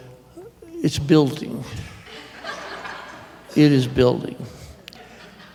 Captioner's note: laughter